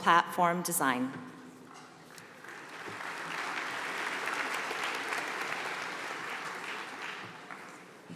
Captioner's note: applause